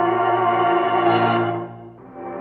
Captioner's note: church bell